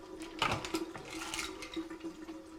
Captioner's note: pills clattering in bottles